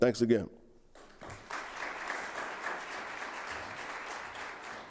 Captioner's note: audience applauding